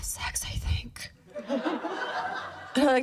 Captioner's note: laughter